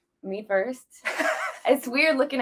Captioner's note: laughs